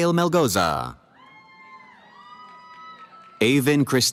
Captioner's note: cheering